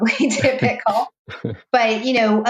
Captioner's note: laughing